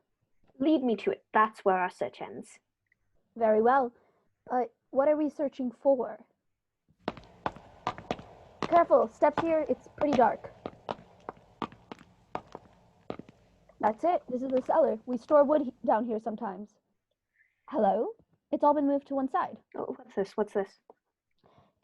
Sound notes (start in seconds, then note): 6.3 footsteps on stone; 10.5 footsteps continue